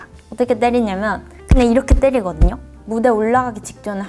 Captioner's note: boom boom boom